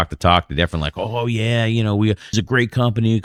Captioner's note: uh